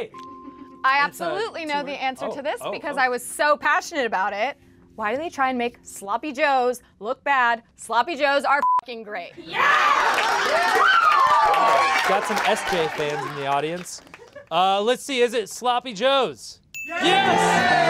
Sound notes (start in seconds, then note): 9.5 cheering, clapping x7; 10.6 some kid screaming in the backround